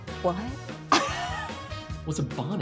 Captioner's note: laughs